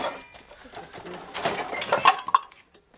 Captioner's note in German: Klappern